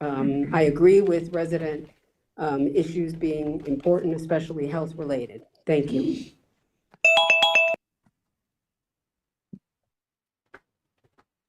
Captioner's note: snorts